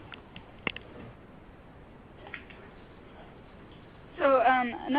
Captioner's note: silence